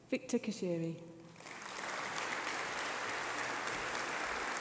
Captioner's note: applause